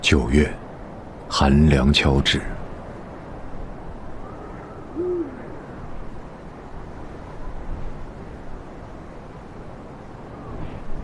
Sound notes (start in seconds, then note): 3.7 wind blowing